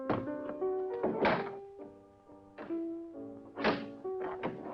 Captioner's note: door unlocking